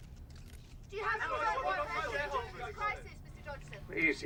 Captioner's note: reporters clamoring